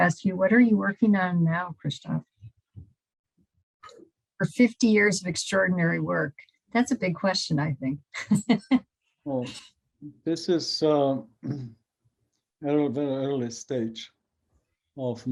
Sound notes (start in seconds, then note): 10.2 chuckles